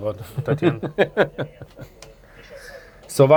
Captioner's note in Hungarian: nevetés